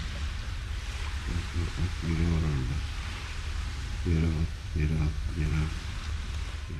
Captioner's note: cameraperson speaking in foreign language